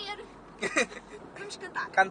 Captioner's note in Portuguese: Risos